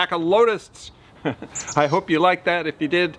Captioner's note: chuckles